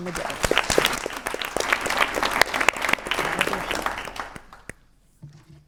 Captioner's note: applause